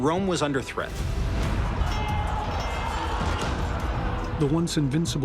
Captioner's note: shouting